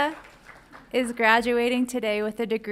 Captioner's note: audience applauds